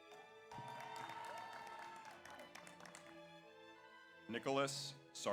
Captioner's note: audience applauds; audience cheers